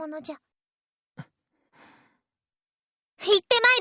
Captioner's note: silence